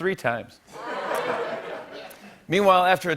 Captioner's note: laughter